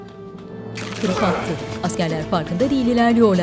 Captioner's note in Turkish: Boyun kırılma sesi